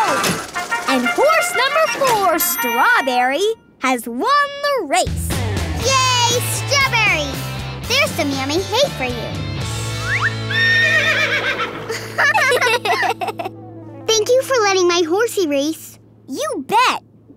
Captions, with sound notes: And horse number four, Strawberry has won the race. Yay Strawberry! There's some yummy hay for you. [neighing] [laughing] Thank you for letting my horsey race. You bet!